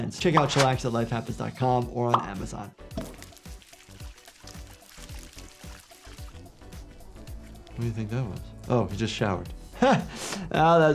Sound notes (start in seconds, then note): 2.9 water splashing; 9.8 chuckling